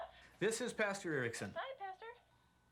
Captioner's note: on phone; on phone